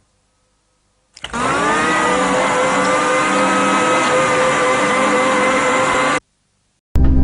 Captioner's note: loud blender noises